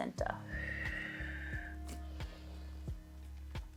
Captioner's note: exhales